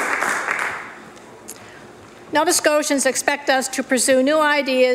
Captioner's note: applause